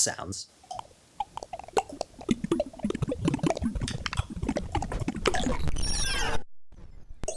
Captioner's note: variety of clicking, yelling, popping mouth sounds